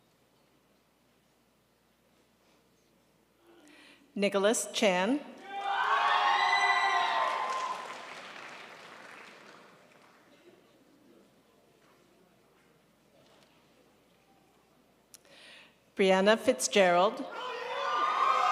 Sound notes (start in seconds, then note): 5.5 crowd applauds